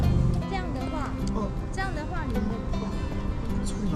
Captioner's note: clicking in the spine